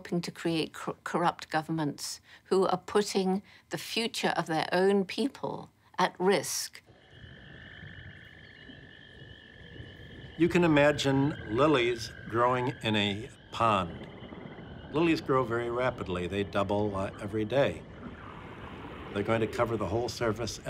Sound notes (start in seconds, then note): 10.2 insects chirring